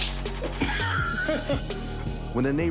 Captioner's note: homeowner laughs